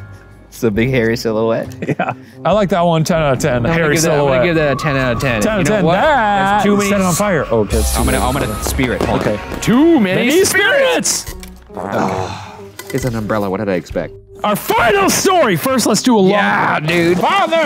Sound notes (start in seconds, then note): 11.9 sighs